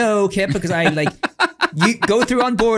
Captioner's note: laughing